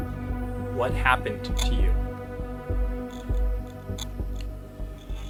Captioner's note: static crackling